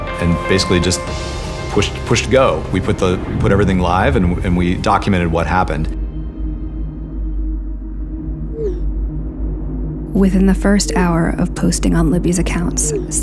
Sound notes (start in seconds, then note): 5.9 soft Music; 8.5 notification Sounds